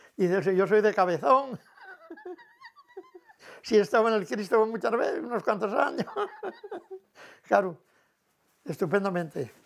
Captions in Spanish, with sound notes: ¡Si yo soy de Cabezón! He estado en el Cristo muchas veces, unos cuantos años". [ríe]. Claro, estupendamente,